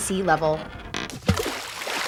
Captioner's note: plunk